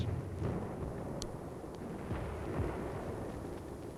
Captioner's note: booming